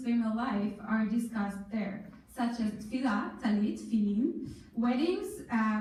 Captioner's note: in foreign language